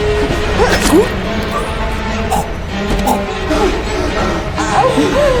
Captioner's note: Janus chokes; knife hacks; Tina and Miles panting